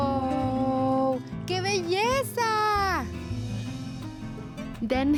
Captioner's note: speaks Spanish